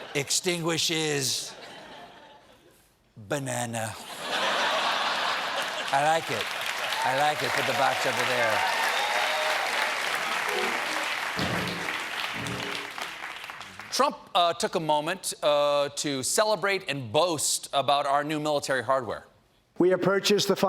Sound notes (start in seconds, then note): 3.5 applause; 4.0 laughter; 11.4 applause